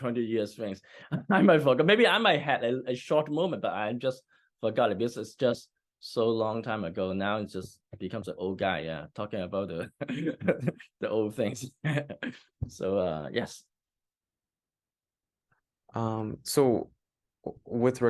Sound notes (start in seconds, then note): 10.0 laughs